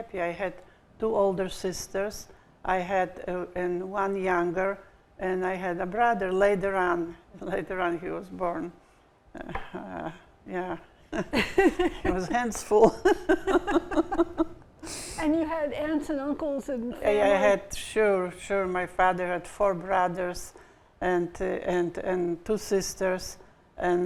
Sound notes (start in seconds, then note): 11.1 chuckles; 12.8 laughing